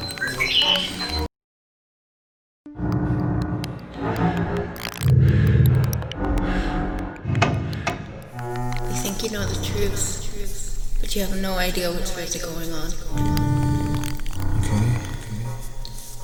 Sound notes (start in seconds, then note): 0.2 songbird; 5.2 breathing